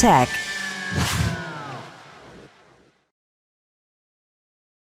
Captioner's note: logo whooshing